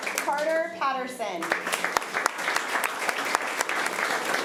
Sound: applause

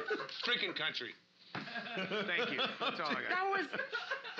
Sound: loudly laughing

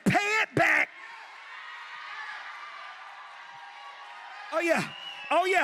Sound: congregation cheers

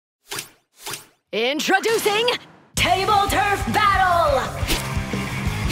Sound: narrator speaking intensely; cheery hard rock music with squid singing vocals

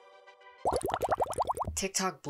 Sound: bubbles

